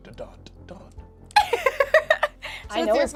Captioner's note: laughs